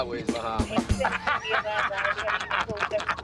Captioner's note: both laughing